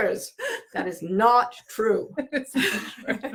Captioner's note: laughing